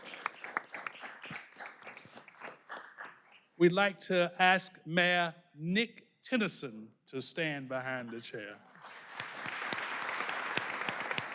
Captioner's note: applause